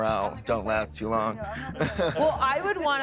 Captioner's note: laughs